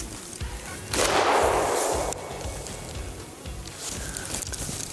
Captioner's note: gunshot firing